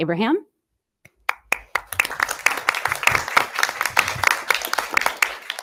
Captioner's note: audience applause